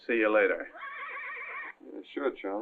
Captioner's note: horse whinnies